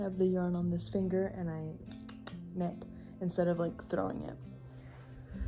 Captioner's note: tongue clicks